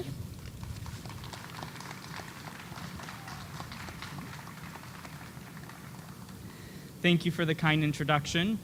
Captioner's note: applause